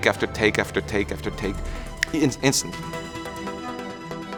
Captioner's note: snaps; intense orchestral music